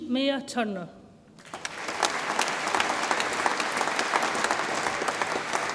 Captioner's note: audience applauds